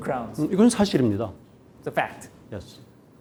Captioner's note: speaking in Korean